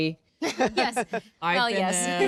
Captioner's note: laughing